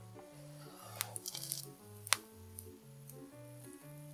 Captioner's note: mouth watering